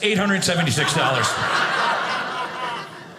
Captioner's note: audience laughing